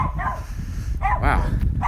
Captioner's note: dogs barking